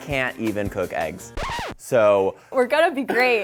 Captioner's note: record scratch